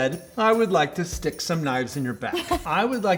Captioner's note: laughing